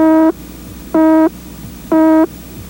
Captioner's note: beep; beep